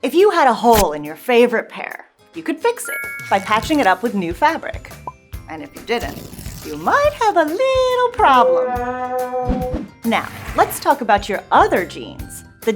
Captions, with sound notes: If you had a hole in your favorite pair, you could fix it, (bell dings) by patching it up with new fabric. And if you didn't, (cloth ripping) you might have a little problem. Now, let's talk about your other genes.